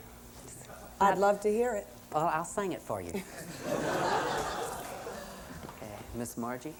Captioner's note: laughter